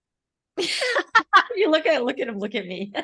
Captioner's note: laughing